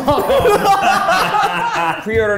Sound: laughing

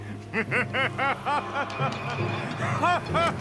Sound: evil Laugh

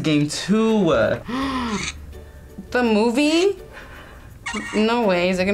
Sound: gasps

